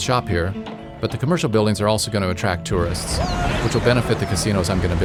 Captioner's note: Arabic